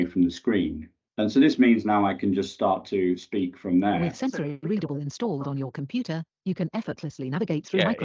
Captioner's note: computer speaks